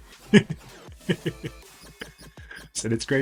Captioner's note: laughs